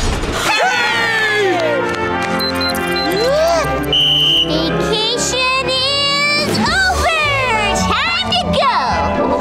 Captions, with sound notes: Hooray! -[alarm beeping] -[inhaling, whistle blowing] Vacation is... over! Time to go.